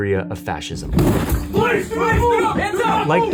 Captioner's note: door slams